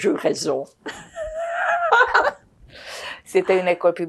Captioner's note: laughing